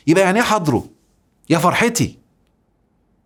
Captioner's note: sarcasm